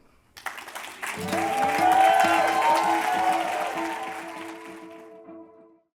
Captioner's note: applause and cheering